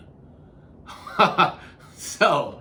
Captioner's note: laughs